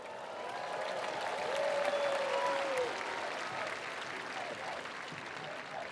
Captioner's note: attendees cheering; attendees applauding